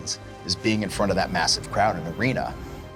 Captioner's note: none